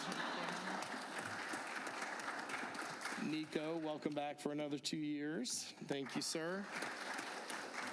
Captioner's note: applause